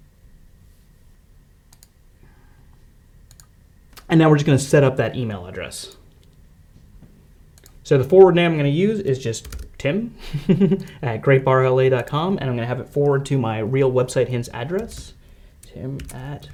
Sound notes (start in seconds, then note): 10.1 laughs